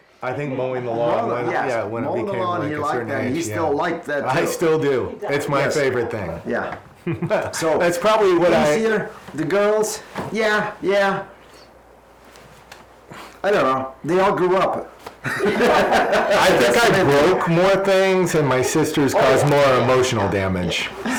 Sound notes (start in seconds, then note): 15.2 laughs